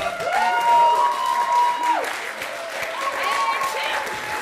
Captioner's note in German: Jubel und Applaus